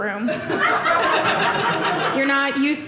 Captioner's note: audience laughing